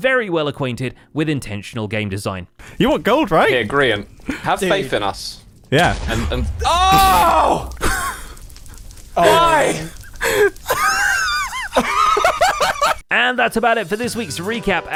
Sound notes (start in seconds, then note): 5.7 explosion; 9.2 laughs